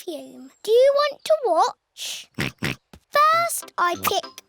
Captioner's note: snorts